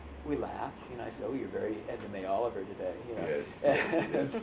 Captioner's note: laughter